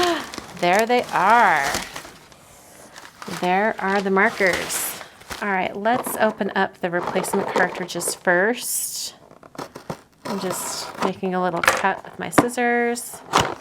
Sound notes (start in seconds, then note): 0.0 gasping; 1.8 paper crinkling; 13.4 box popping open